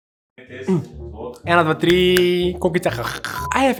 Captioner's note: nom, nom, nom